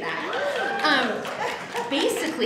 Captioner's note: applause